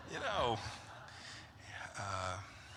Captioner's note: laughter